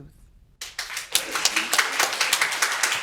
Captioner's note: audience applauding